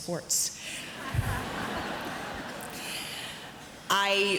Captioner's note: audience laughs